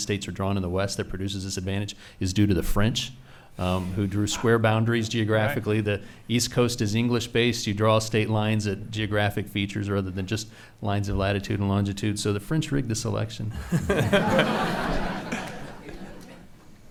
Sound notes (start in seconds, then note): 13.5 laughing